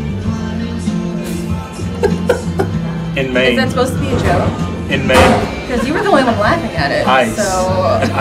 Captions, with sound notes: (cheerful music) (Marcus laughs) In Maine. - Was that supposed to be a joke? - In Maine. - Cause you are the one who was laughing at it.